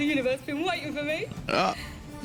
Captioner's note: surprised noise